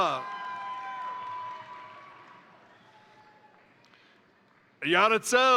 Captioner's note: crowd cheering; crowd applauding